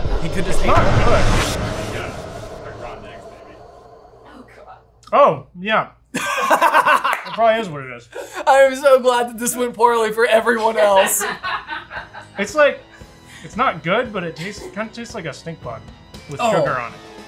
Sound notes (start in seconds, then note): 0.0 suspenseful sound whooshing; 6.1 laughing; 10.9 laughing